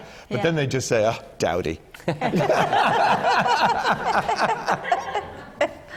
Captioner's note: laughter